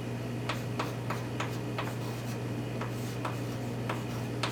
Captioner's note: chalk tapping